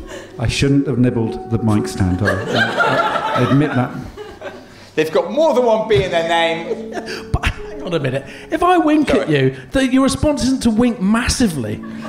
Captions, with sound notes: I shouldn't have nibbled the mic stand. I admit that. They've got more than one B in their name... [GIGGLING] But, hang on a minute... If I wink at you, your response isn't to wink massively.